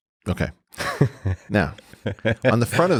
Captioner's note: Lex chuckling